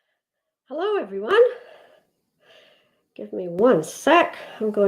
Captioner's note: none